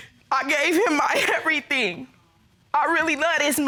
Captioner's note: sobbing